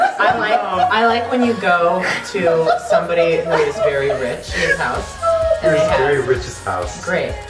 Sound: mocking

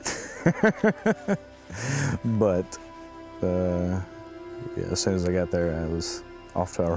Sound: laughs

